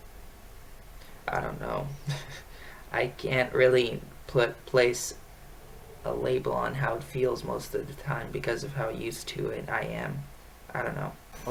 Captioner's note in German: lacht